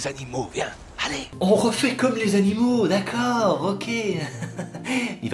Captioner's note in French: Rires